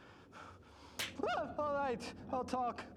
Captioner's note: smacking